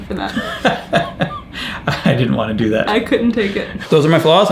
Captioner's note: laughs